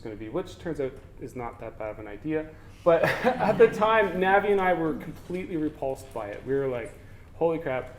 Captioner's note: laughter